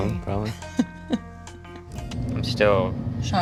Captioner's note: laughs